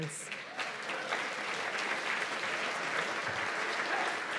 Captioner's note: applause